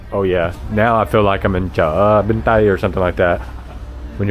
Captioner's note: speaking Vietnamese